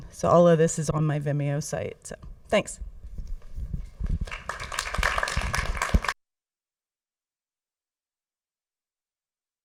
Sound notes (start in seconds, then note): 4.1 applause